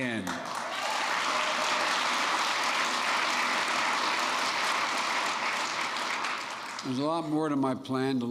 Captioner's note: applause